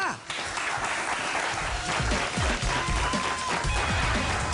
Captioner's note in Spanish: Aplausos